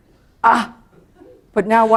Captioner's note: laughter